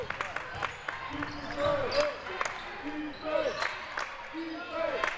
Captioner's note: clapping